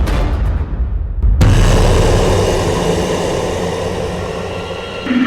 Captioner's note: monstrous Growling